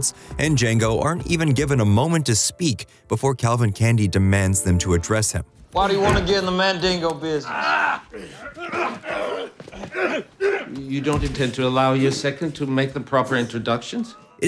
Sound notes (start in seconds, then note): 7.4 groaning